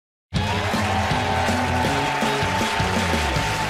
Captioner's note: cheers and applause